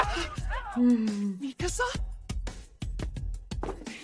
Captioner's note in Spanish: Risa gutural